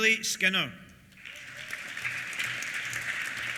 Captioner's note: applause